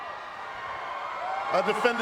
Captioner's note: crowd cheering